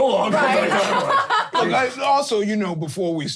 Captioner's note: laughing